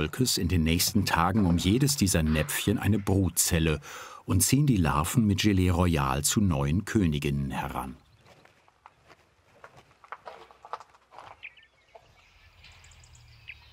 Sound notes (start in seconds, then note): 9.0 birds chirping